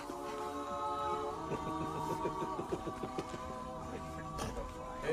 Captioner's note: laughs